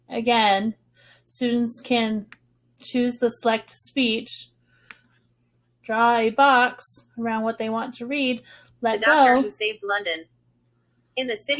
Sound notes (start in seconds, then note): 9.7 computer speaking